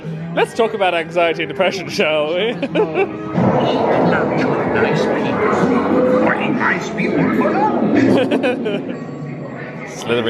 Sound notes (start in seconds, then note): 2.5 laughs; 7.9 laughs